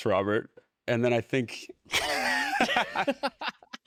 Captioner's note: laughter